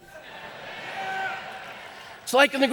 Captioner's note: audience laughing